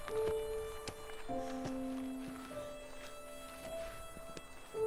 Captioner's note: Ellie breathes heavily